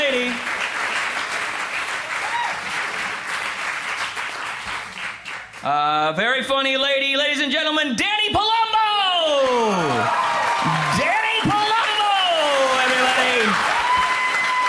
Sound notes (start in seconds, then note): 9.4 crowd applauds